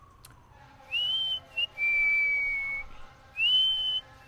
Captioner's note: whistling